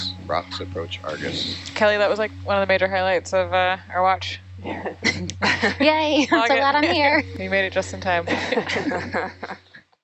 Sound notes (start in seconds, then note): 4.6 people laughing